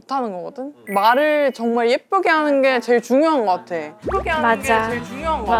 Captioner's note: speaking kindly